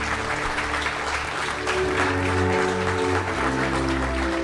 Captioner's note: applause